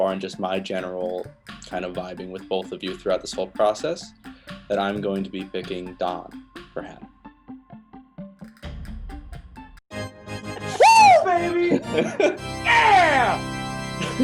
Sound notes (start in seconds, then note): 10.0 fanfare; 12.4 laughs